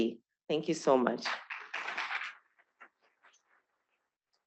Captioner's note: applause